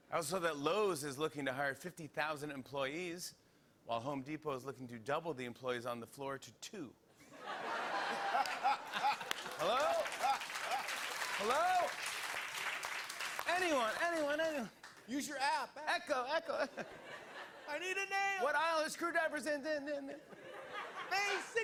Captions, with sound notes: Also that Lowes is looking to hire 50,000 employees, while Home Depot is looking to double the employees on the floor to 2 *Laughing* Hello? Hello? Anyone? Anyone, Anyone? Use your app Echo, Echo I need a name